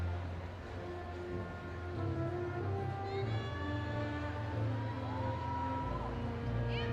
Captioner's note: audience cheering